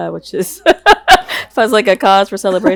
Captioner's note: laughs